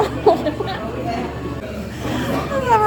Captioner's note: laughing